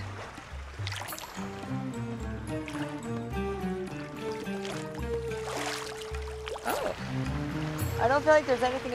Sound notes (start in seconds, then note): 5.4 splashing